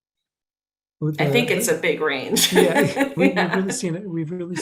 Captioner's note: laughing